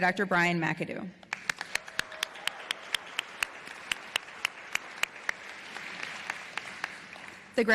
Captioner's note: applause